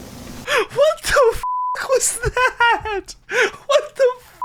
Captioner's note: manic laughter